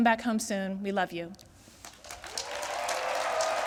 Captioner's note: applause